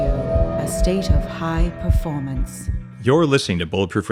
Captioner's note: heart beating